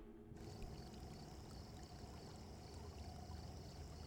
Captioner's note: crickets chirping